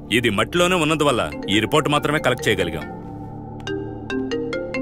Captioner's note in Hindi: फोन की घंटी बजती है